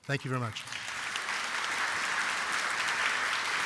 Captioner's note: applause